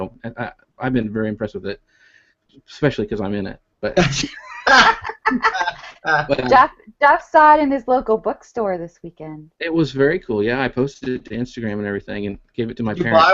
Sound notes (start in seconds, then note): 3.9 laughing